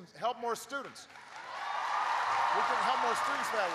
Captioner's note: applause